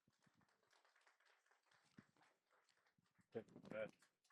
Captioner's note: applause